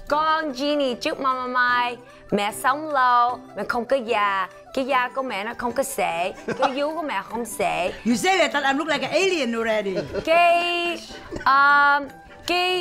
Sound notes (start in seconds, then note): 0.1 speaking foreign language; 6.4 laughs; 12.6 speaking foreign language